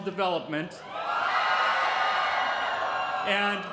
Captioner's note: cheering